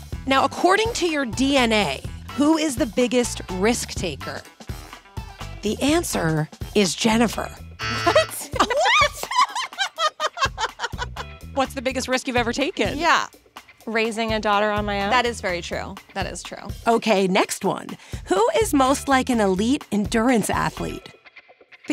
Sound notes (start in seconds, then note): 7.8 buzzer beeps; 7.8 laughs